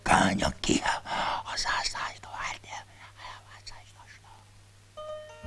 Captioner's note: whispering